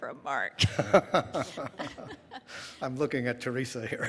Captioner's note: laughing